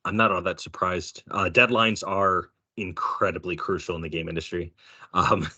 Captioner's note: chuckling